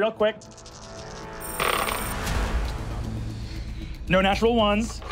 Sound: dice rolling

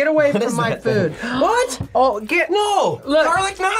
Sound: gasps

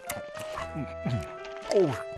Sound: sighing; animal noises sounding

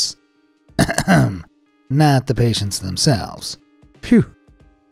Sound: coughs

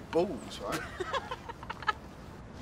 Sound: rires

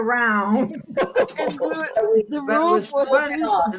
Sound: all laughing

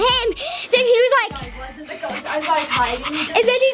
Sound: pants

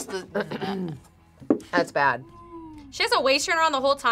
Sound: clears throat

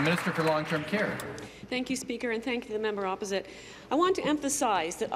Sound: applause

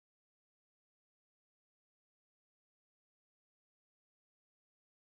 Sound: none

